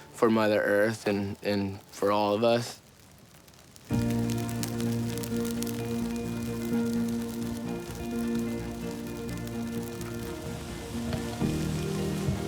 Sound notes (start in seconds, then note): 4.0 happy music; 4.3 fire crackles